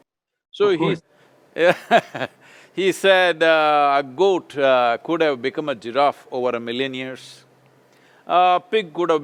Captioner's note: laughs